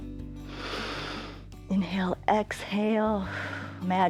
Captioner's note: exhales; inhales